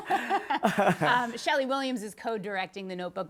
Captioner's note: laughter